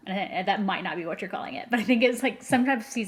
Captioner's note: laughs